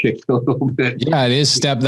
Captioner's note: laughs